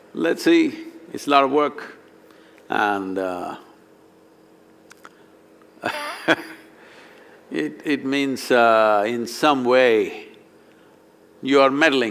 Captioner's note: laughs